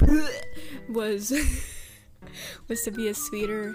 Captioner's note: laughs